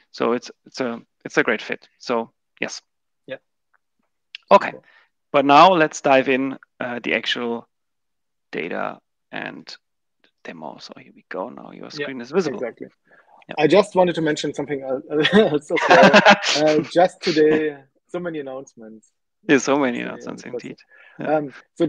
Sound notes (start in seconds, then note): 15.2 laughs